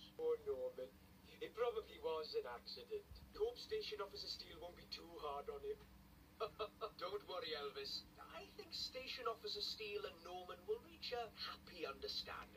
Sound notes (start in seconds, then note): 6.4 Fireman Sam Chuckles